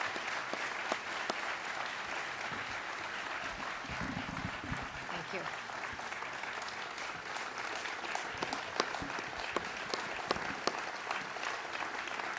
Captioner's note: applause